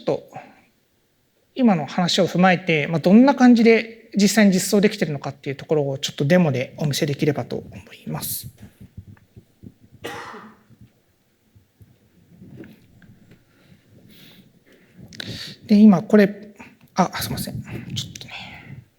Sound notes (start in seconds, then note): 11.1 silence